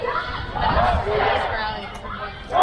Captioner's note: crowd